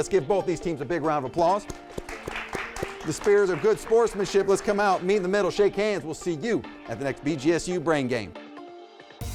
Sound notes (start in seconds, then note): 1.6 audience applauds; 9.0 upbeat music